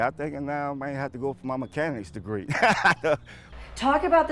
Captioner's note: laughs